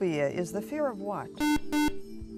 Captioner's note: buzzer